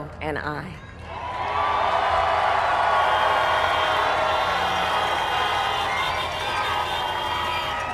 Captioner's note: applaud